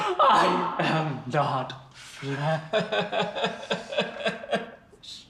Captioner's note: crying